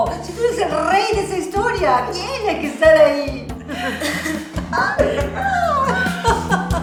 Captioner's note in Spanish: risas